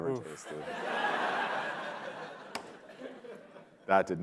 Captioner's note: laughter